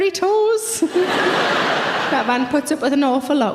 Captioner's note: audience laughs